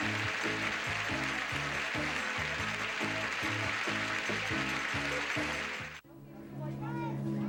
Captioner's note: audience applauding